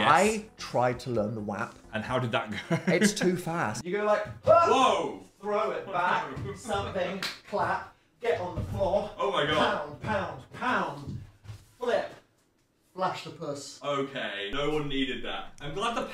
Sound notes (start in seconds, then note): 7.1 claps